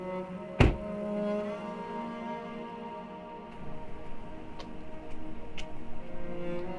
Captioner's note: melancholy music; car door slams shut